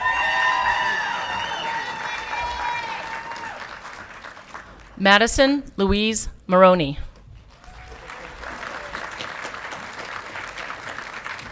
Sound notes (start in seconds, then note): 0.0 audience clapping and cheering; 7.3 audience clapping